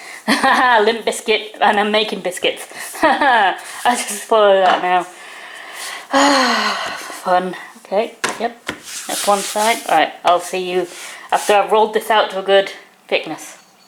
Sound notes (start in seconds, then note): 6.1 sigh